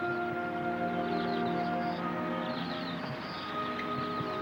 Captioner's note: swallows chirping